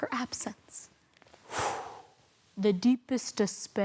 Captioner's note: whoosh